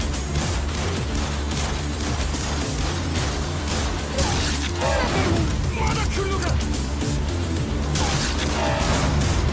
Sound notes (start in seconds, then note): 3.3 guns firing